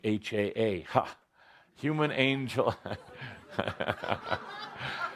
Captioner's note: laughter